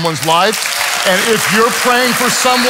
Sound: congregation applauds and cheers

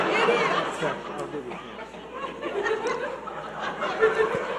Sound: audience laughing

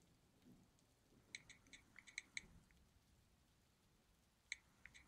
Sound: cellphone typing

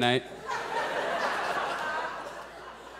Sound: audience laughs

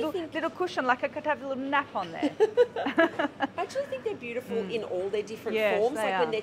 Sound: both laugh

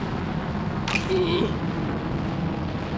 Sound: chomps

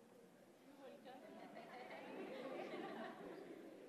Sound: laughs

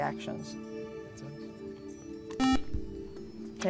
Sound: buzzer

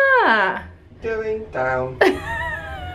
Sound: laughing

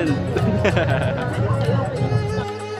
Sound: laughs

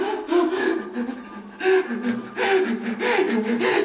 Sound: sobbing

